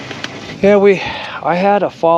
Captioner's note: boat engine idling